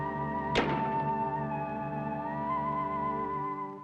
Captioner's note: door thuds